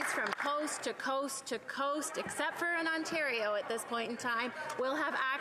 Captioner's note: applause